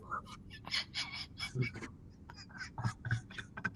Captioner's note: laughs